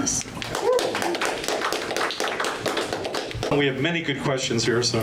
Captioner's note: audience applause